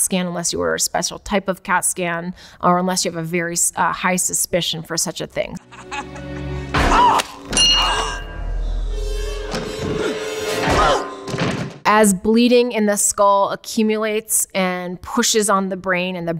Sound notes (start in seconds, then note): 5.6 Marv laughs; 7.5 bell dings; 10.4 shovel rings